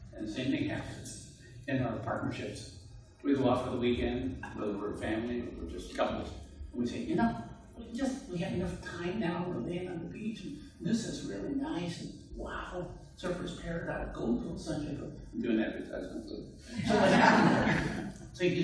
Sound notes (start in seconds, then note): 16.7 murmurs; 16.7 audience laughs